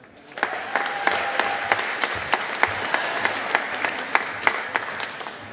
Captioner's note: audience applauding